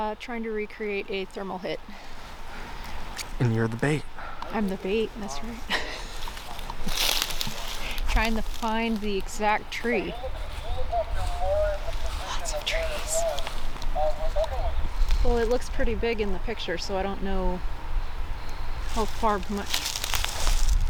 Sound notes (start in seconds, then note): 7.1 laughing